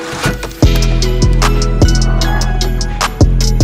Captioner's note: door opening